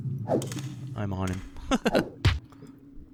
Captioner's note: laughs